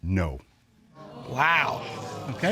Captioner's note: audience exclaims